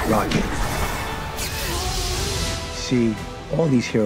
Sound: explosion booming

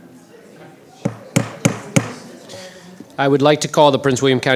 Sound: gavel banging

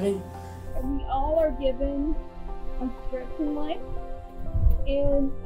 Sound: faintly speaking

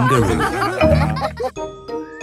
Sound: all laughing

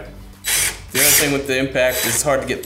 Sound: drill screeching

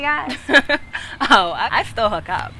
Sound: woman laughing

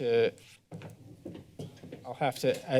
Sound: footsteps

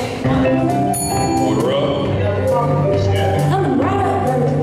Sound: bell Rings

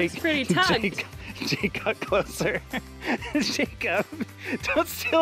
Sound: laughs

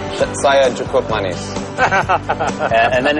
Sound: non-english speech

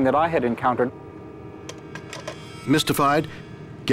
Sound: receiver clicking

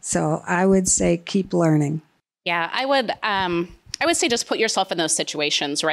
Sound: none

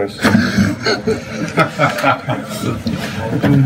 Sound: laughs

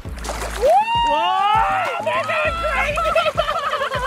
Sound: shouting

